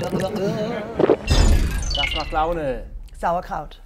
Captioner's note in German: Bedrohliche Klänge, Gluckern; Schlucken